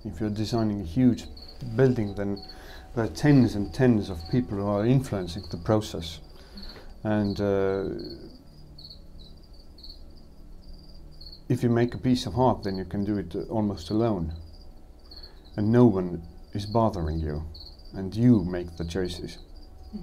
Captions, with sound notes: If you're designing a huge building then the tens and tens of people are influencing the process. And ... *crickets chirping* if you make a piece of art then you can do it almost alone and no one is bothering you and you make the choices.